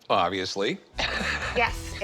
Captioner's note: laughs